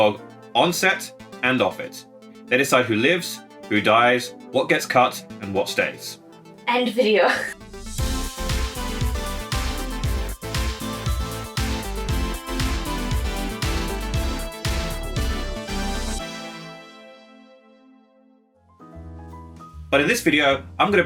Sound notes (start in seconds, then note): 7.7 laughing; 8.1 upbeat music; 18.8 jazzy music